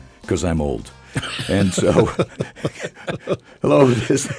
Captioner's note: hosts laughs